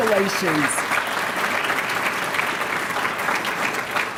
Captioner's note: applause